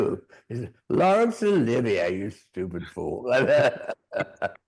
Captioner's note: both laughing